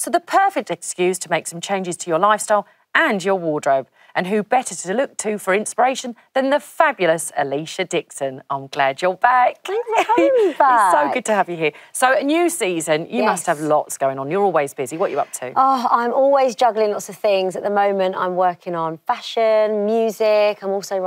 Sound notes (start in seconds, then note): 9.7 laughs